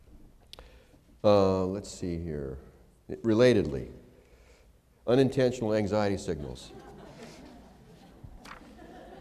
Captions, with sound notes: Let's see here. Relatedly. Unintentional anxiety signals [laughter].